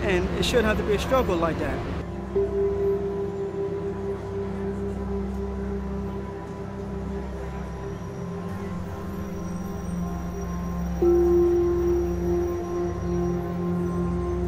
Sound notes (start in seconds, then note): 2.3 tense orchestral music; 7.4 cars braking